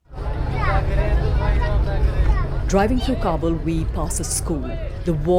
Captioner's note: traffic commotion